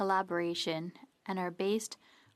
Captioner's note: speaking French